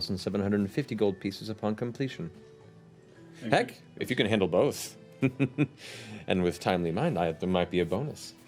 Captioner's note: laughs